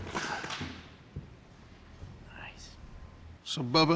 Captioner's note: whispers